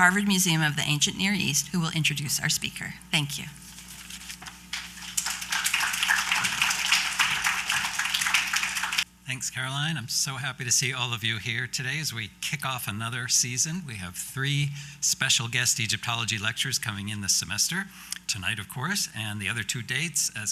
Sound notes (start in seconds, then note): 4.7 applause